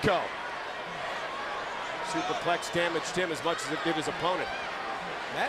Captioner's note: applause